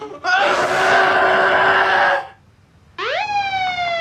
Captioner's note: Billy grunting; Billy screams; siren wails